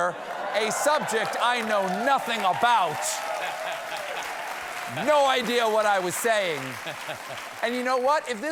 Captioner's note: applause